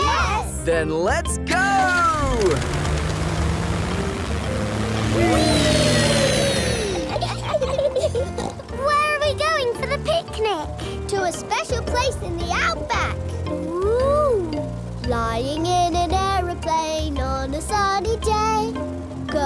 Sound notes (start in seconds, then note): 6.8 laughs and snorts